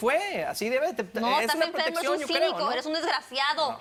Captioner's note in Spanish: Hablan al unísono